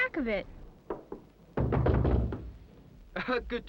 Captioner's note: spirited thumping; chuckles